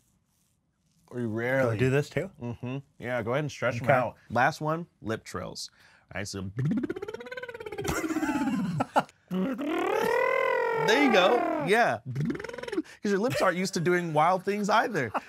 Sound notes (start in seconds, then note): 9.3 trilling lips